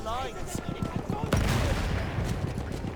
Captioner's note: gun fires